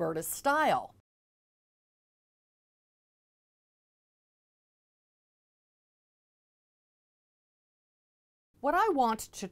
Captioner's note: no Sound Present